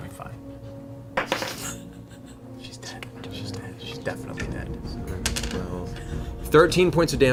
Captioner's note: whispering